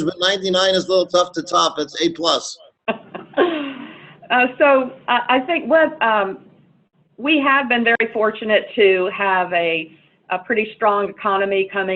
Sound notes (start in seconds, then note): 2.9 laughs